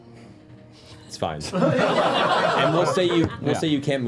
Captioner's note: laughter